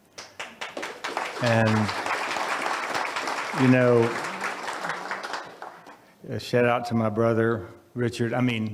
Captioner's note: audience applauds